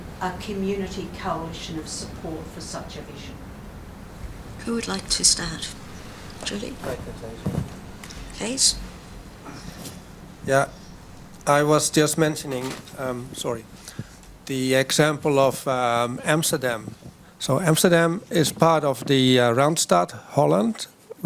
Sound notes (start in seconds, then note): 6.9 speaks faintly; 12.6 book thuds